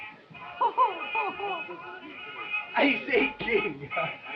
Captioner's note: laughing